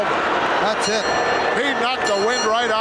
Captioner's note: bell rings